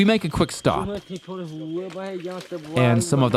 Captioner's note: speaking in foreign language